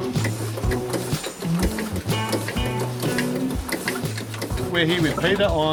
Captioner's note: steam engine whirring